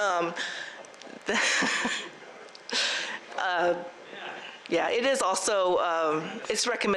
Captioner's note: laughs